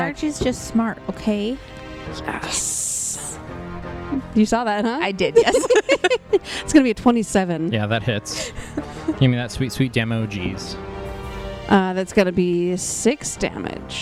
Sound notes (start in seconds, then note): 5.2 laugh